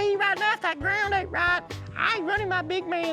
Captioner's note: imitating female voice